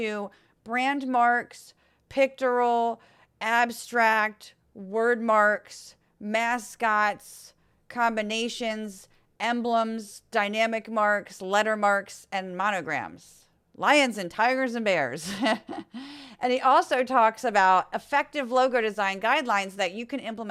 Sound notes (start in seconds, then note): 15.2 laugh